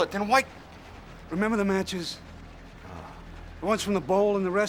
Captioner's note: sighs